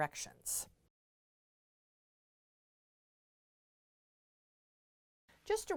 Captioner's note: no Sound Present